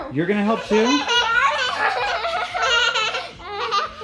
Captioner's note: both laugh